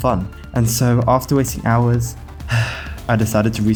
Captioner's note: sigh